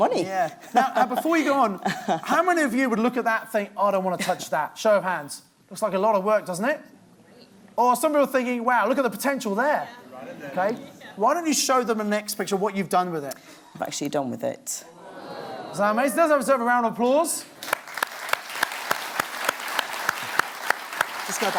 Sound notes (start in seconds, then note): 14.8 crowd; 17.6 audience applauds